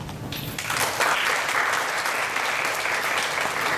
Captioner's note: applause